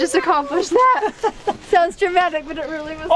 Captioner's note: laughing